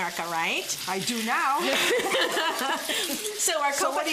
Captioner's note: laughter